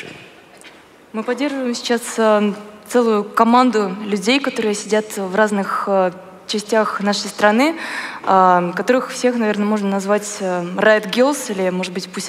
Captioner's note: foreign Language